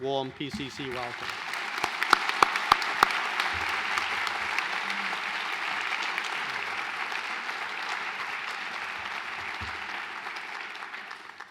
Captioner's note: applause